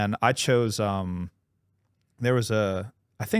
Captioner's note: none